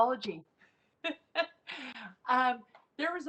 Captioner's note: laughs